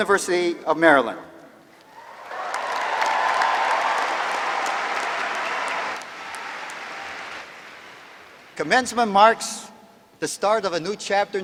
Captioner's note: cheers and applause